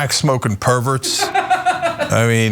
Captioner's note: laugh